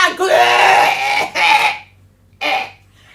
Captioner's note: coughs